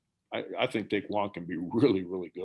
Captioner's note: murmurs